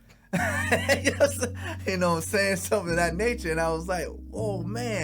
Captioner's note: laughs